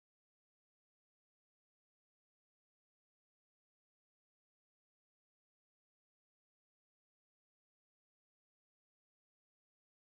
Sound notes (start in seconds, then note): none